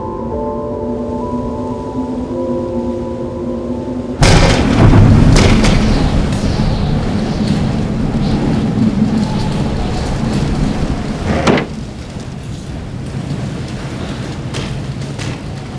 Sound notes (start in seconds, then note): 4.9 window crashes open, wind howling